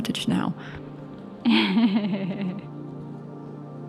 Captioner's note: laughs